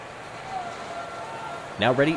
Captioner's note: Chants of the O'rangers beginning